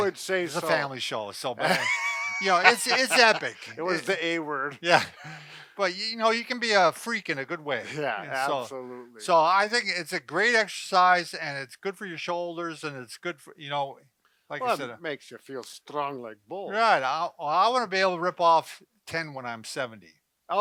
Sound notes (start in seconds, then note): 1.6 laughs